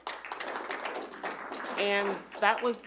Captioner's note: audience applauding